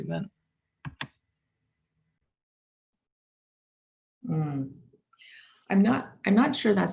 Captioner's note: silence - awaiting response